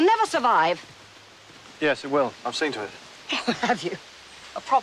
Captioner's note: laughs